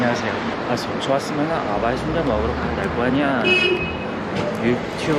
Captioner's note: in Gangwon dialect